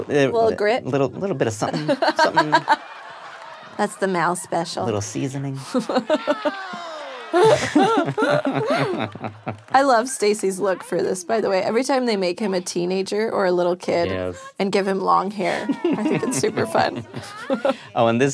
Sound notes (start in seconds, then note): 5.6 laughing